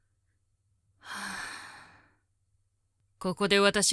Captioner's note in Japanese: ため息